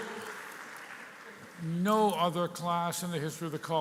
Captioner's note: cheering and applause